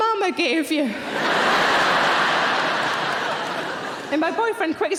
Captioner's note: audience laughing